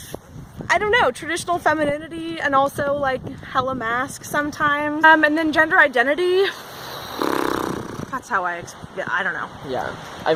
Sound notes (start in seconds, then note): 6.5 exasperated lip blowing